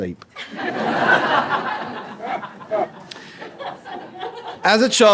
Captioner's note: laughter